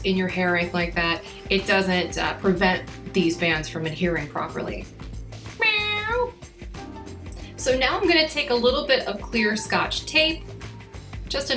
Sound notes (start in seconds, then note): 5.5 imitates cat meowing; 6.6 upbeat music